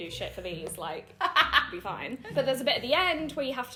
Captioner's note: laughing